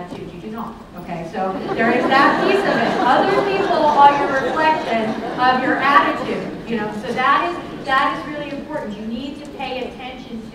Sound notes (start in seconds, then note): 1.5 laughter